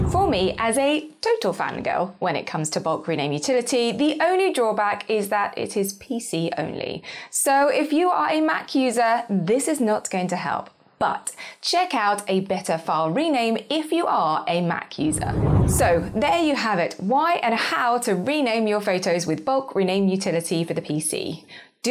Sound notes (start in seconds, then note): 0.0 screen whooshes; 15.0 screen whooshes